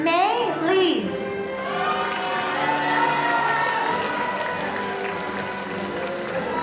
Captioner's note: audience applauding